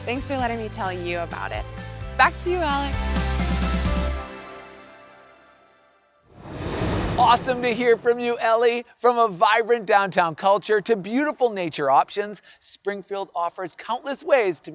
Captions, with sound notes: Thanks for letting me tell you about it. Back to you, Alex. (upbeat music) (air whooshing) - Awesome to hear from you, Ellie. From a vibrant downtown culture to beautiful nature options, Springfield offers countless ways